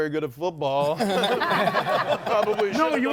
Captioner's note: group laughs